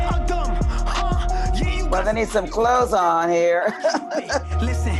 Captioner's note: laughs